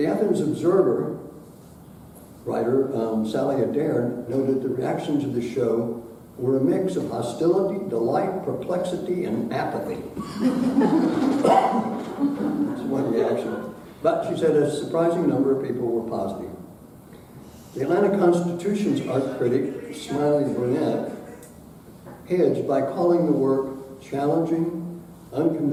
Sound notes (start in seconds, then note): 10.2 audience laughing